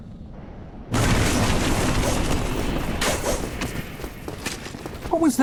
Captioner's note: fighting, Metal Clashing